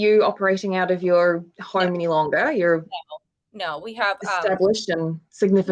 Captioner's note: none